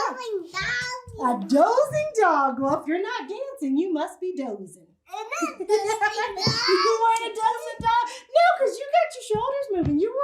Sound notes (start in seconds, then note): 5.2 laughs